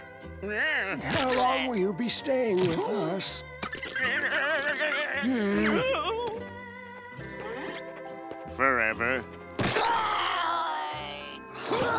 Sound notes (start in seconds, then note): 4.1 moaning; 9.3 groaning